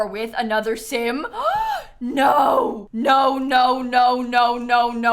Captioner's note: gasps